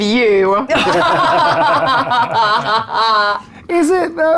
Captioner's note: group laughs